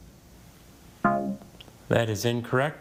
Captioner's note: tone clunks